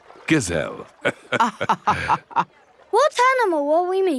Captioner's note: both laughing